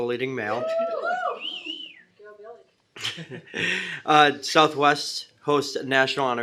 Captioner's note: cheering